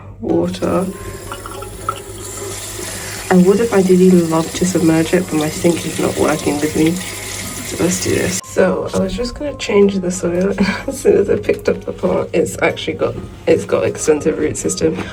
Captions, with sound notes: water (water running from tap) I would have ideally loved to submerge it but my sink is not working with me so let's do this. So I was just gonna change the soil as soon as I picked up the plant. It's actually got It's got an extensive root system